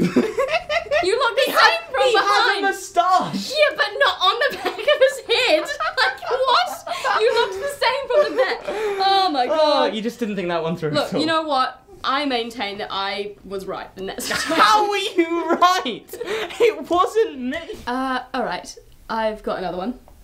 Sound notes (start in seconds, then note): 0.3 laughing; 6.8 laughing